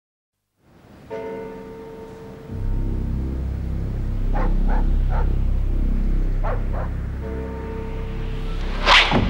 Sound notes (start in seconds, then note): 4.3 dog barking